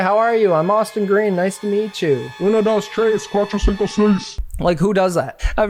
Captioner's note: speaking in foreign language